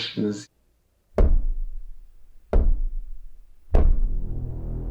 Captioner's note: fist knocking